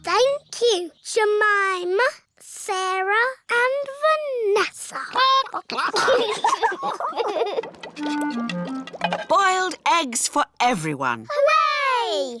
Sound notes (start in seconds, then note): 5.0 children giggle; 5.2 chickens chatter